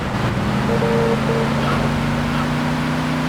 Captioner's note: sirens